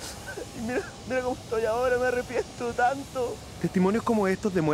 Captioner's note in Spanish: Llorando